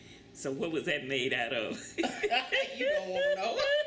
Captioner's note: laughter